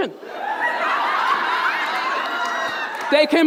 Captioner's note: audience laughing